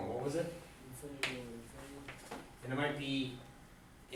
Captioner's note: voiceover